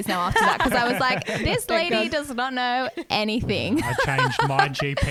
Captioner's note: laughs